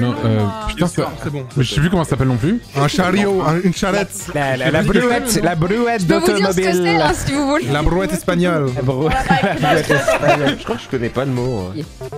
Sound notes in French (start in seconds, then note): 4.5 imite l'accent; 9.0 fou rire collectif